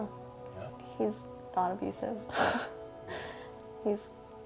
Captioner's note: nervous chuckles